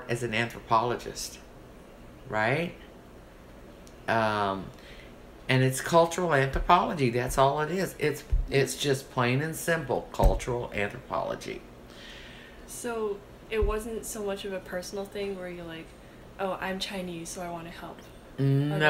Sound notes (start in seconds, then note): 9.8 pounds table